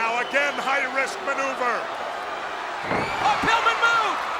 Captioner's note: body thudding